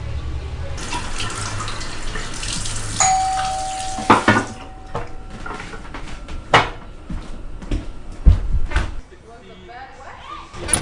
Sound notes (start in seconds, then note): 3.0 doorbell ringing